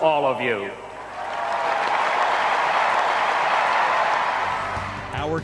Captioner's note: audience cheers